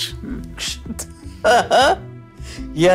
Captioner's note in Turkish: Gülme sesi